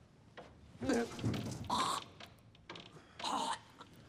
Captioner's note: vomits, retches